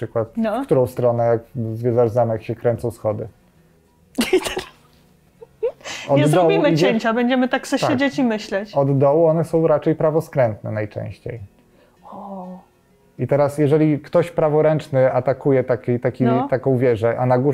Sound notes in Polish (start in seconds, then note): 4.2 śmiech